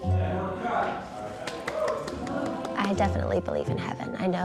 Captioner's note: light clapping